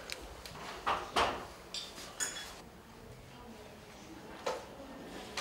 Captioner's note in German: Klapperndes Geschirr und Stimmengemurmel